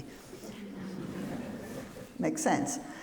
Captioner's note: audience laughs